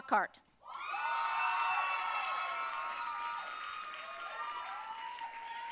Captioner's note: audience cheering and applauding